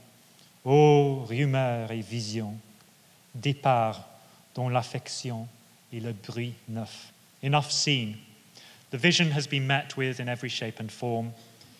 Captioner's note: French speaking